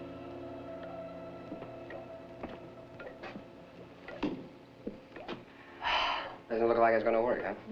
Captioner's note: gasp